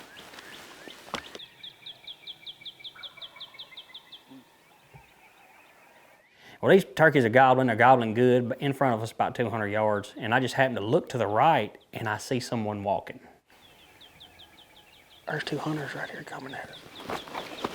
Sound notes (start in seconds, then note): 1.6 birds chirping; 2.8 turkey gobbling